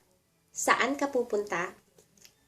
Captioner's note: Tagalog